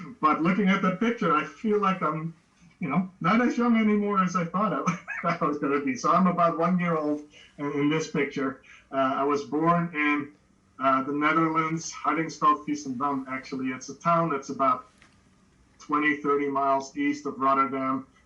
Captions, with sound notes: but looking at the picture, I feel like I'm, you know, not as young anymore as I thought I was gonna be. So, I'm about one year old in this picture. I was born in the Netherlands. [Speaking Dutch], actually. It's a town, it's about 20, 30 miles east of Rotterdam,